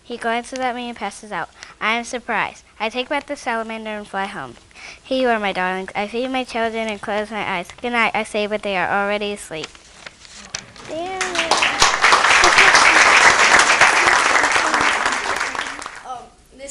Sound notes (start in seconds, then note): 10.8 clapping